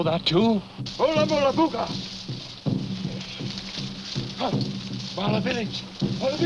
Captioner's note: speaking in foreign language